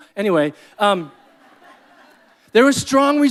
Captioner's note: audience laughing